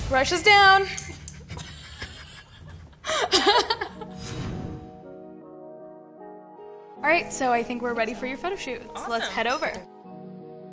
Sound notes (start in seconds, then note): 1.2 laughing; 4.6 gentle music; 10.5 gentle music